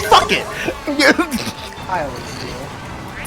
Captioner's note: laughing and thinking about watching Football